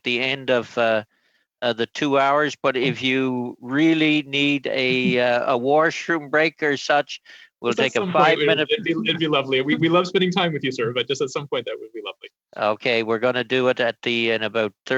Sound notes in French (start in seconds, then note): 1.5 voix de l'interprète